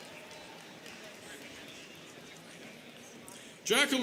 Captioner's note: people chattering